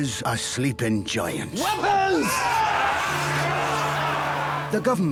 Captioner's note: yelling